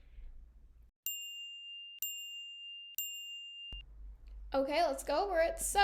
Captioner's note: chiming